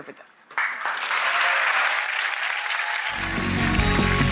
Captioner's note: audience applause